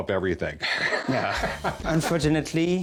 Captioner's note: laughs